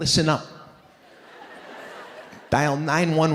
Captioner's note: audience laughing